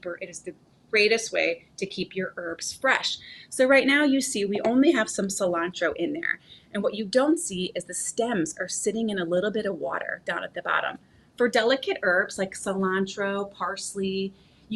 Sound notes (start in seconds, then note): none